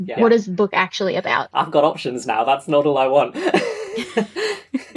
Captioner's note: laughs